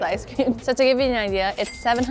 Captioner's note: cash register dings